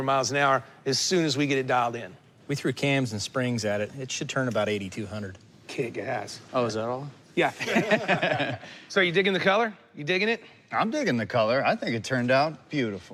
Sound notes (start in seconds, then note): 7.5 laughter